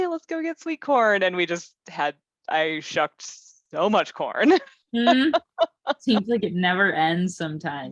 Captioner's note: laughter